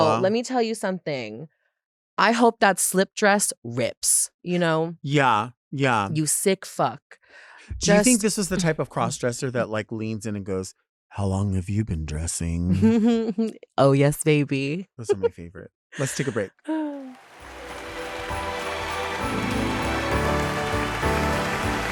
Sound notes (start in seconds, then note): 17.0 audience applauds; 19.0 festive music